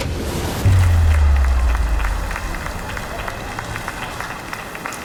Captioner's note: audience applauds